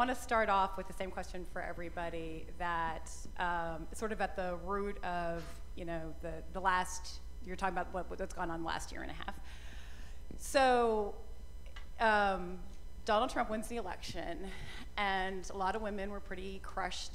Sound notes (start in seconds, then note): none